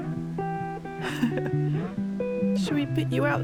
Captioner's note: chuckle